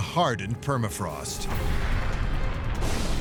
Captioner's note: ominous music; thunder and lightning